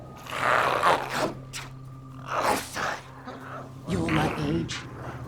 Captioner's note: growls